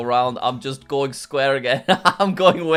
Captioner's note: laughs